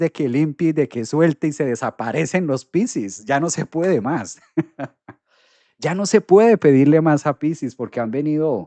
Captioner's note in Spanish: risas